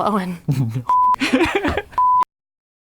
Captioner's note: laughs